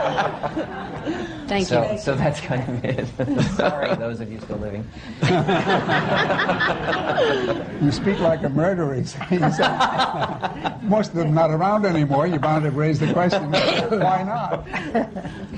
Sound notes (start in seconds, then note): 0.0 laughter; 5.2 laughter